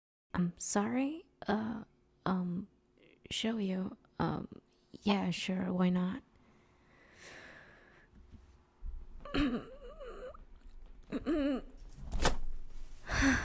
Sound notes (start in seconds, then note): 7.1 deep breath and grunting; 13.0 tail flopping and heavy breathing